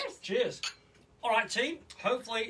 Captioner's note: glasses clink